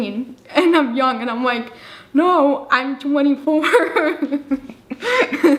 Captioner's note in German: lacht